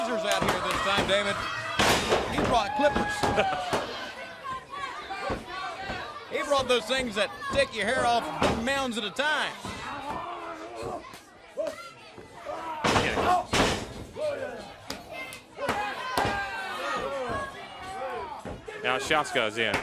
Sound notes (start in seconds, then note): 4.2 crowd chatter; 12.1 crowd chatter